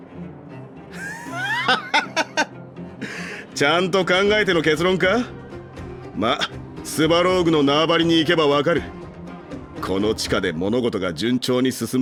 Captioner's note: sigh